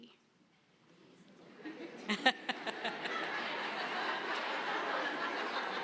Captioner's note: laughter